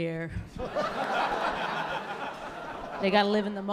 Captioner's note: laughter